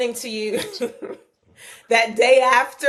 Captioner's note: laughing